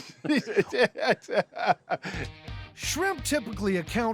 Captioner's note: chuckling